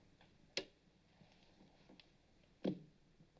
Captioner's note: switch Clicks Off